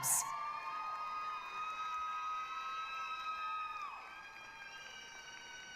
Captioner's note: applause, cheering